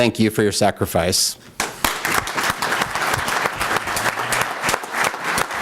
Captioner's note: applause